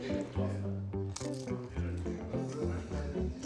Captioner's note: chewing crackers